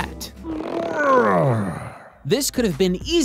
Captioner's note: grunt noises